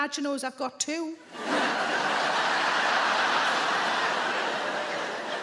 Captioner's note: audience laughing